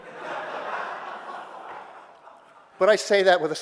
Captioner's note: audience laughter